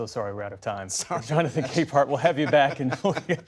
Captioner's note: laughter